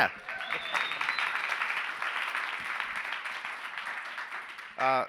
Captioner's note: audience applauds